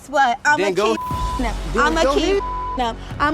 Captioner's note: beep